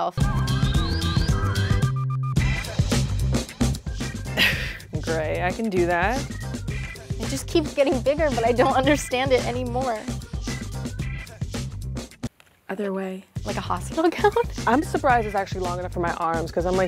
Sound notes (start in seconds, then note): 0.2 upbeat music; 4.2 laughs